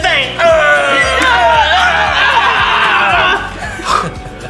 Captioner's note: Lystra and Riz'shar growl fiercely